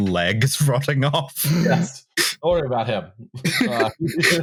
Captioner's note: laughter; snorts